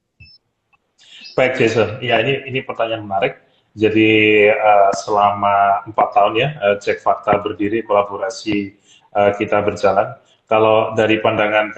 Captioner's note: non-english speech